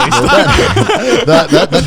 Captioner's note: laughs